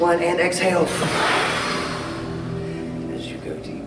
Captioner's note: Adam exhales